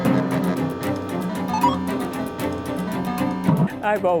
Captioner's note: beeping